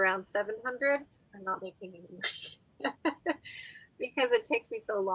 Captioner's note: laughs